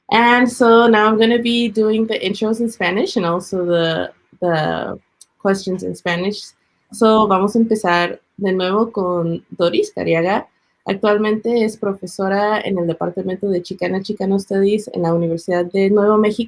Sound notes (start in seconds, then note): 7.1 speaking Spanish